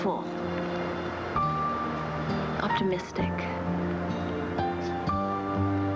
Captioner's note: none